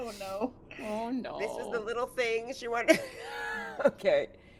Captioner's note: laughs